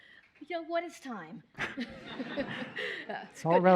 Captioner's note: laughter